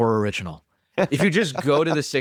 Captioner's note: laughs